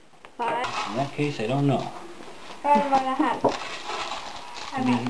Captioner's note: background talking